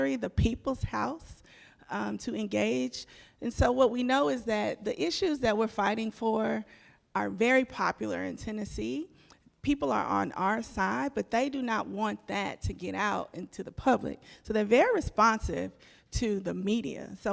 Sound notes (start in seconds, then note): none